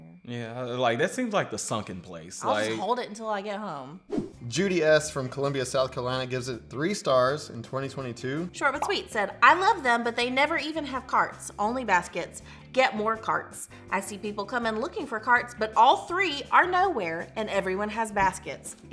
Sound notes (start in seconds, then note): none